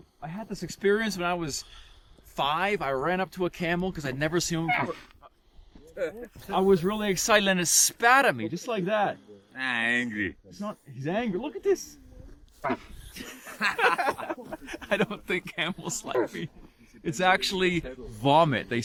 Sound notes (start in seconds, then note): 4.6 camel grunting; 12.6 camel grunting